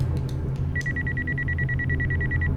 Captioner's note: phone ringing